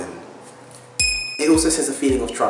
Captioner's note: ding sound effect